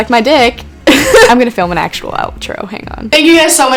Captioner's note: laughs